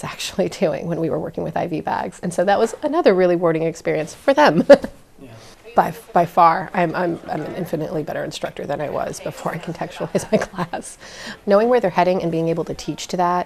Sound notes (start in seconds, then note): 5.5 ha, ha